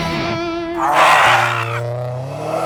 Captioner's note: screaming